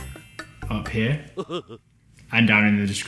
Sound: laughs

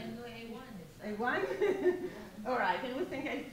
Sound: giggles

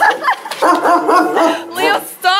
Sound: barking continues

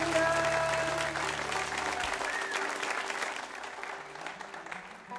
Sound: audience applauding

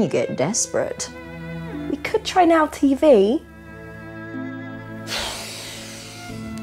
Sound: sighs

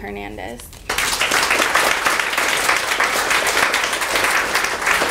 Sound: audience applauding

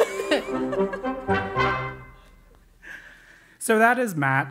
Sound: laugh

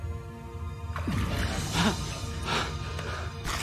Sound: water splashing

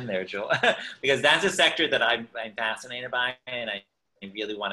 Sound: laughs

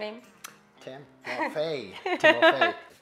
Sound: laughs

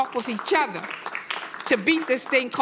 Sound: audience applauding

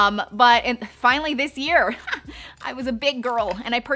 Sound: laughs

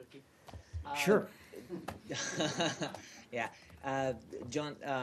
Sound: laughter

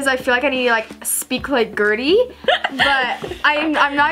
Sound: laughs

